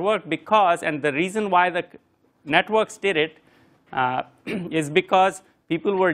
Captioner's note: cough